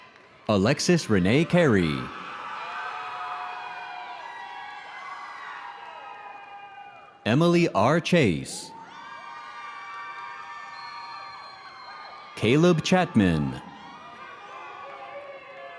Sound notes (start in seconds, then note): 8.6 audience cheering